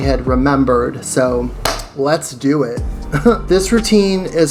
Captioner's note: laughs